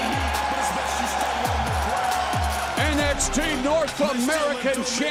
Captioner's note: crowd cheering